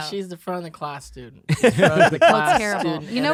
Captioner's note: laughing